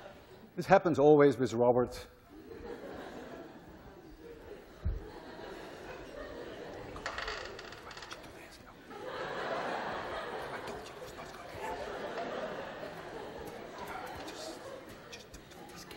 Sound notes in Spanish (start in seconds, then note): 2.3 risas; 9.1 en susurros; 11.7 clase se ríe